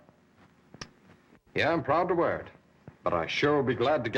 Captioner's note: clicks tongue